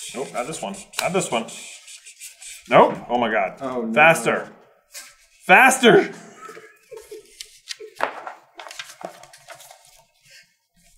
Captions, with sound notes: Nope. Not this one. Not this one. Nope! Oh my god. Oh, no. Faster. Faster!! [laughter]